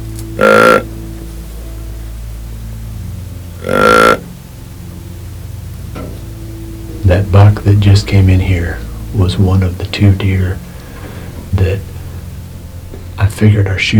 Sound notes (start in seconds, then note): 0.2 sound of grunt call; 3.5 sound of grunt call